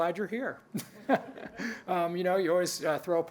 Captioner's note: laughs